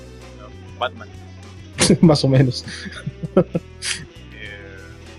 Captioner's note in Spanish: risas